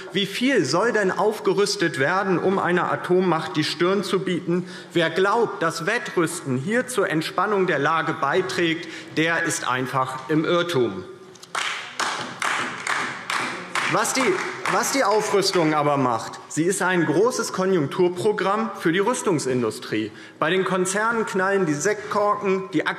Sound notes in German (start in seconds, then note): 11.5 Beifall DIE LINKE